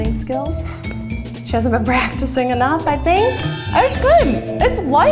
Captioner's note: laughs